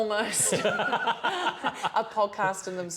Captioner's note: laughter